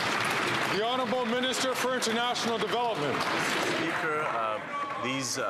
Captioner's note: some Applause